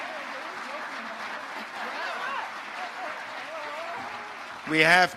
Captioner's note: speaking off mic